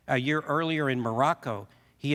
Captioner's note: none